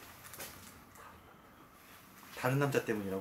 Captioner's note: whispering